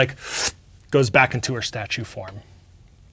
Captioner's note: imitates suction noise